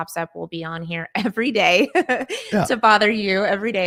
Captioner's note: laughing